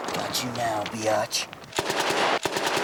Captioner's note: gunfire